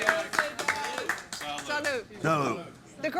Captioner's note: everyone applauding